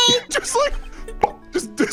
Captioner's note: pop